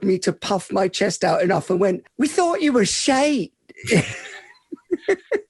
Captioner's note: laughs